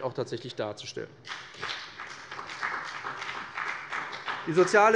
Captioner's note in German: Beifall bei dem BÜNDNIS 90/DIE GRÜNEN und der CDU